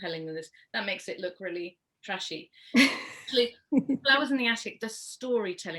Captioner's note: laughs